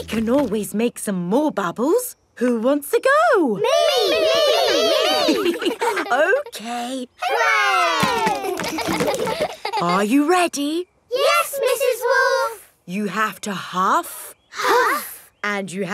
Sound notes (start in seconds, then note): 8.1 chuckles; 8.9 kids laughing